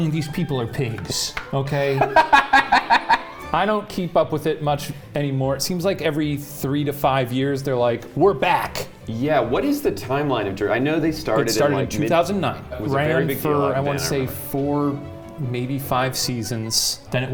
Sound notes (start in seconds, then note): 1.7 laughs